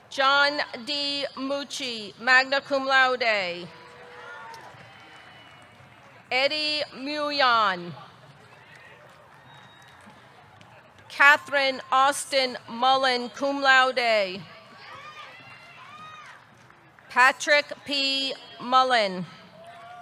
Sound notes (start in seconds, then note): 8.6 audience cheering; 8.6 audience clapping